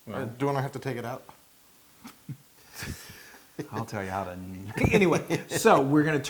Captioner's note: laugh